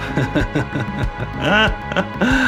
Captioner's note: laughing